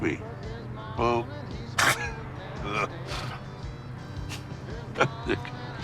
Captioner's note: laughs